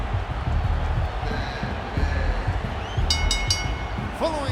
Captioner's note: bell ringing; dramatic music